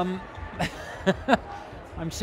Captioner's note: laughing